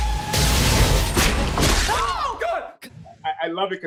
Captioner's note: dramatic music; screaming